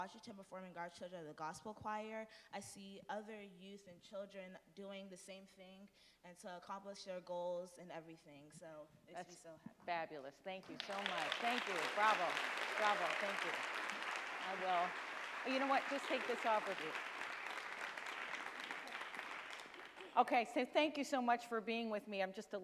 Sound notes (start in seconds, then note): 10.6 audience applauds